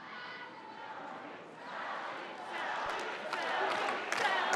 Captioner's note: crowd chanting